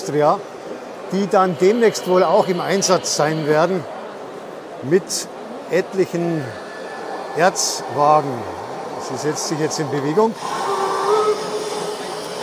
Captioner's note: whistle